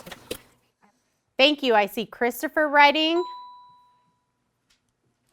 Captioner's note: ding